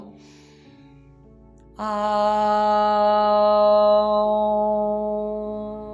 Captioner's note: inhales